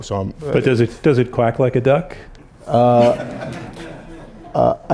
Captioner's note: laughter